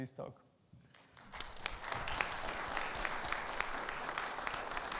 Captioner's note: audience applauding